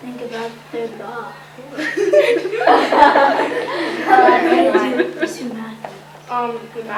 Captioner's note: laughter